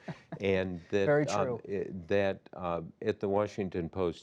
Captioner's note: laughs